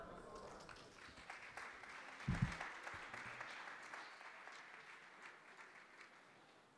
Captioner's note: audience applause